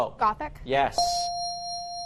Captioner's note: bell dings